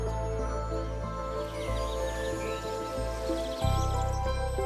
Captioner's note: birds chirping